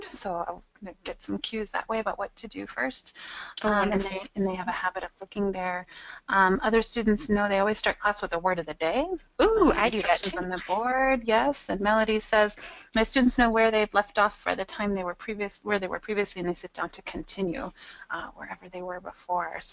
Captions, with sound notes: so they get some cues that way about what to do first, and they have a habit of looking there. Other students know they always start class with a Word of the Day. - [Voiceover] Ooh, I do that too. - [Voiceover] Yes, and Melody says, "My students know where they've left off for the time "where they were previously when they sit down to continue "wherever they were before."